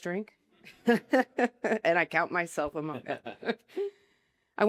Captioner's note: laughter